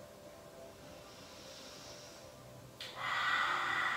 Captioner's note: exhale loudly with tongue out